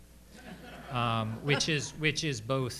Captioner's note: audience laughing